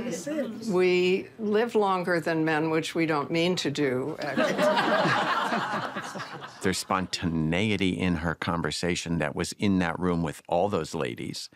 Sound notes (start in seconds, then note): 4.4 all laughing